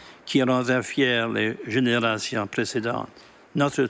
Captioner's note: speaking French